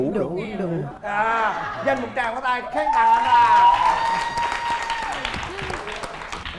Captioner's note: applause